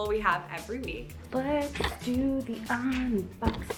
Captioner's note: sing-song